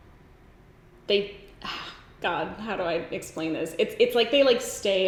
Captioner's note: sighs